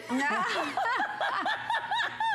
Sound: laughter

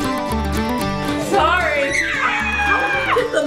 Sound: cheerful folk music; shrieks

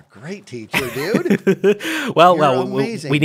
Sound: laughs

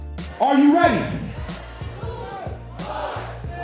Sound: crowd

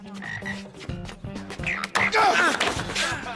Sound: frog croaking

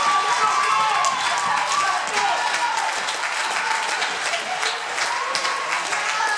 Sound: crowd cheers and applause

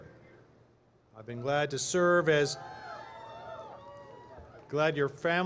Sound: cheering

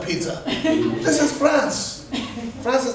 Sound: students laughing

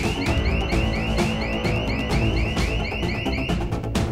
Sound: alarm is sounding

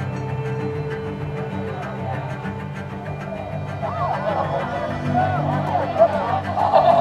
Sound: students chat and laugh

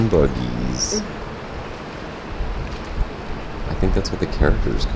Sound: waves gently swishing

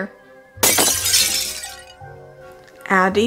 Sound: glass breaking

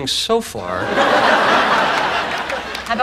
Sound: audience laughing

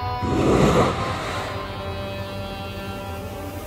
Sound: growls

